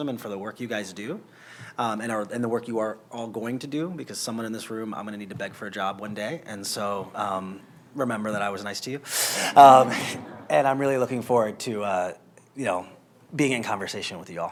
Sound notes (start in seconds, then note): 9.6 laughter